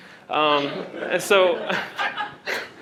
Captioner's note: laughter